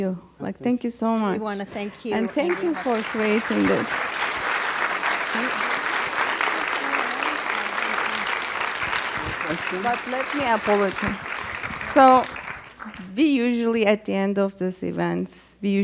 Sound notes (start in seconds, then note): 4.1 audience applauds